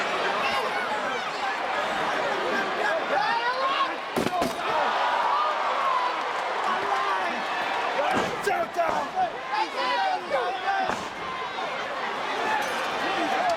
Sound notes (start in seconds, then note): 4.8 audience cheers